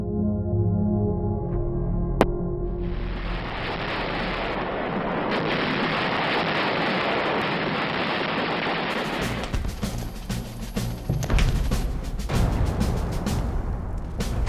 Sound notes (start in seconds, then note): 2.7 bombs booming; 9.0 dramatic marching music; 12.2 bombs booming